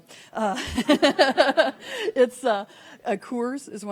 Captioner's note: laughing